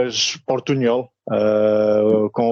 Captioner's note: mixture of Spanish and Portuguese